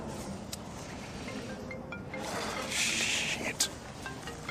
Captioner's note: phone rings; sighs